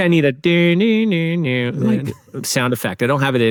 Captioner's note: imitates Jeopardy theme